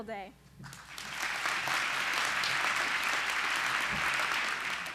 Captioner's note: applause